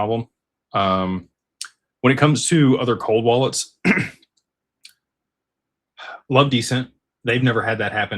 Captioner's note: clears throat